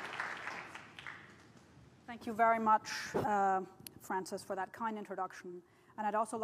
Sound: applause

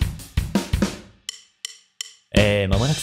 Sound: deep voice

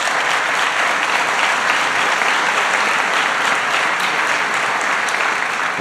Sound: applause

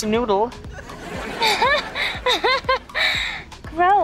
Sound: laughing

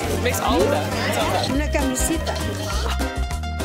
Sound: speaking foreign language; upbeat music

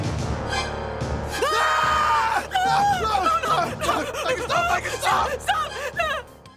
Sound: screaming in terror

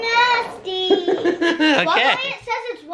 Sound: laughs

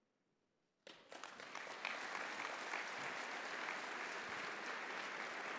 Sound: audience applauding

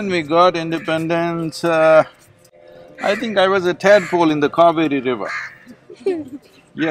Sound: laughs

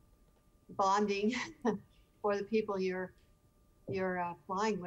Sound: chuckling

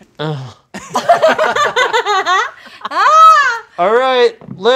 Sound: cast laughs

